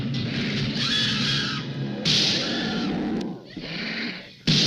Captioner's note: gun shots firing